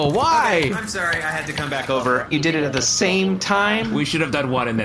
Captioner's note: skitters in